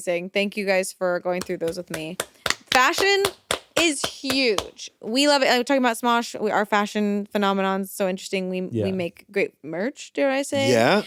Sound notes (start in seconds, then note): 1.4 clap